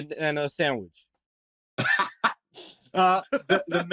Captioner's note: laughter